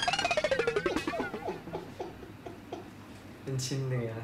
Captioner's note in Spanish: La tía se está riendo